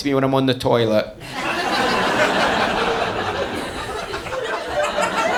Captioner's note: audience laughing